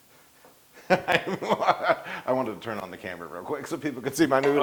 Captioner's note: laugh